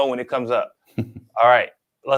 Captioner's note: chuckles